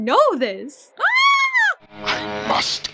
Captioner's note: squal